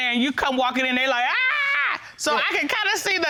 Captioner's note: screaming